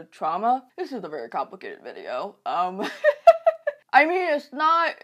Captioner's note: chuckles